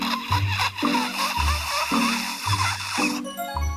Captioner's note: very dry suction sound